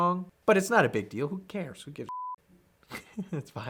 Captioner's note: beep